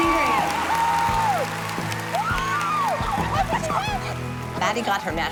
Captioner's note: cheers and applause